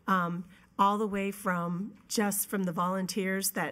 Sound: none

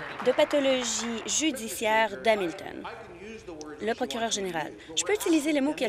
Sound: applause

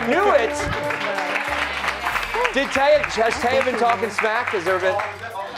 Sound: applause

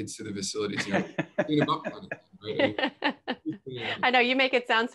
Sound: laughing

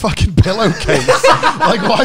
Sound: laughing

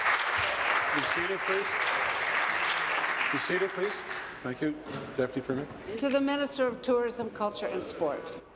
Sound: applause

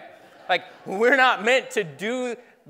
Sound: laughing

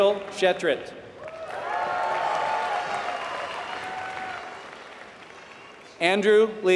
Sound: applause

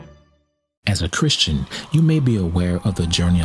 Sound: voiceover

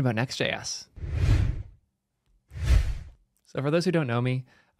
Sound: screen whooshing

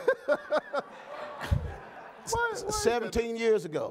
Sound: Raphael laughing

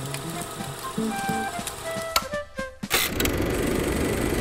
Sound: projector clicking; upbeat music

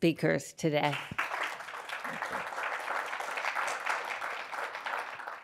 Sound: audience applauds

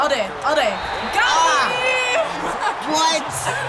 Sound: laughs

